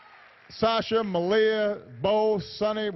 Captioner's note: applause